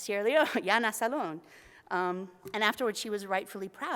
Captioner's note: foreign language